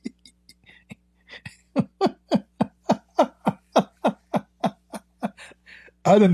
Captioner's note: Ketawa